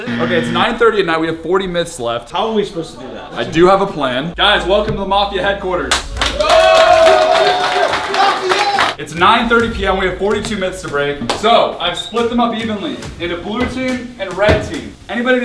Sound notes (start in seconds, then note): 6.4 collective cheering